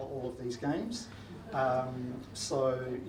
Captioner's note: audience laughs